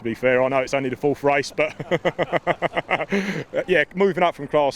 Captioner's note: laughs